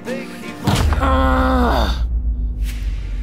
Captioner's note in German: Wütendes Stöhnen